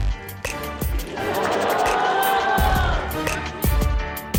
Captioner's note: audience cheers; exciting music